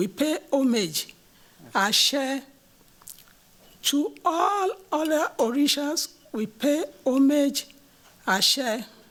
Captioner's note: non-english